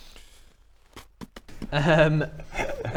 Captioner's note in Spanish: pfft pfft